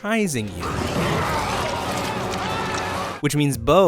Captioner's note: screaming